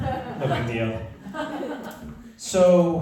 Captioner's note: laughter